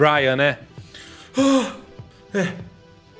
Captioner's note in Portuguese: suspiro